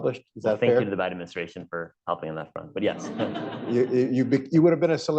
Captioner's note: laughter